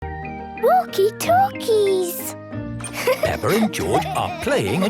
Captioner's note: laughter